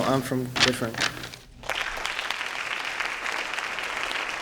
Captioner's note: applause